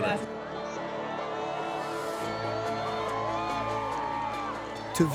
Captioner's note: people cheering